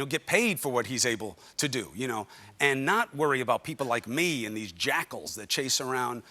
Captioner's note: none